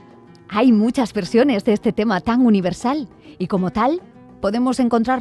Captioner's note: speaking in Spanish